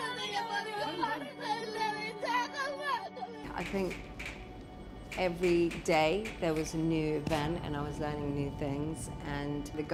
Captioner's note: speaking foreign language